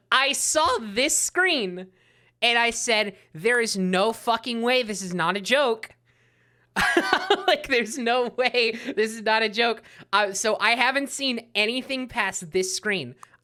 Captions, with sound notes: I saw this screen, and I said, "There is no fucking way this is not a joke." [laughing] Like, "There's no way this is not a joke." So I haven't seen anything past this screen.